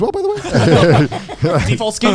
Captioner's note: all laughing